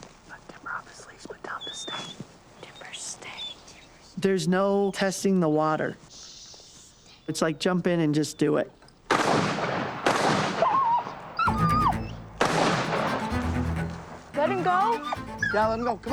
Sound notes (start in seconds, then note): 0.2 whispering; 9.1 gunshots; 11.4 dog whining